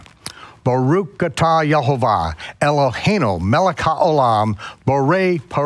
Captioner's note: speaks in foreign language